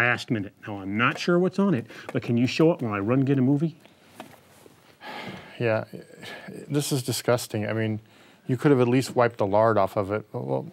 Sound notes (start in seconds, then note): 5.0 sighing